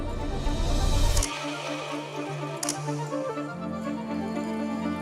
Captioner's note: shutter snaps